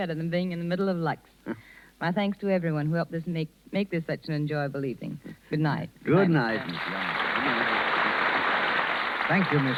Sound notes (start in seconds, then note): 6.4 applause